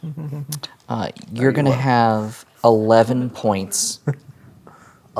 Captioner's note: humming; whispering